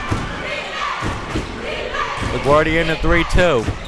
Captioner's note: crowd chanting defense